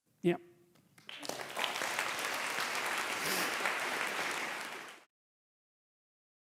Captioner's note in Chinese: 掌声